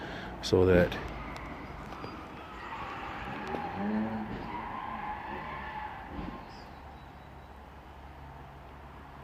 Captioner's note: tires squealing cars crashing